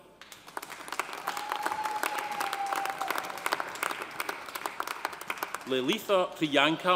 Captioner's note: audience applauding; audience cheering